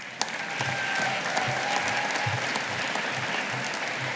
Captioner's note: audience applauding